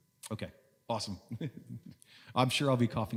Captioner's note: chuckles